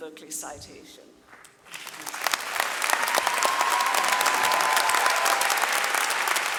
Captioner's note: audience cheering and clapping